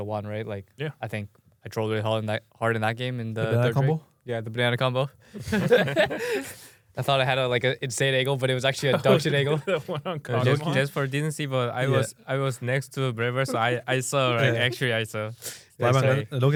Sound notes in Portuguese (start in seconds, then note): 5.3 risos; 8.8 risos